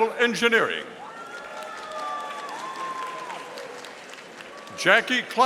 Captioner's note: audience applauding